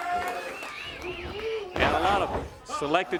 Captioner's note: crowd cheering